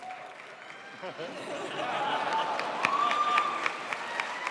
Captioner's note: crowd applauds